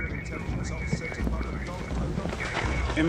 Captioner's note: police radio chatter